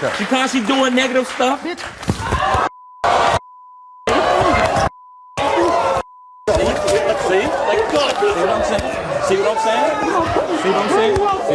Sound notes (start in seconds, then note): 3.0 audience hollers